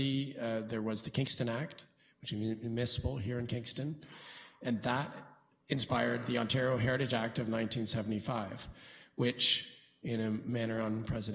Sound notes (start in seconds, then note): none